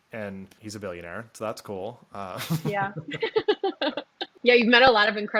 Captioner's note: laughs